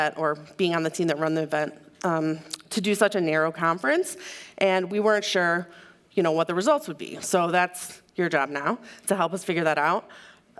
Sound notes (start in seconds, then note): none